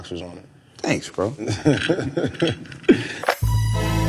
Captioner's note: laughs